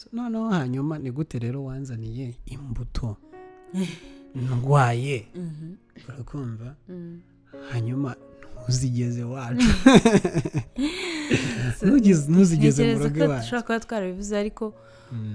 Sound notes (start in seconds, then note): 9.6 laughs